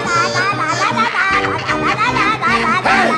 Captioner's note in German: Frenetische Freudenrufe